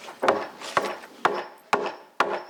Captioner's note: hammering